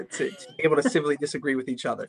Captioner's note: laughs